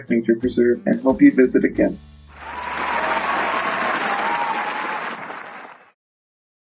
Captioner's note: applause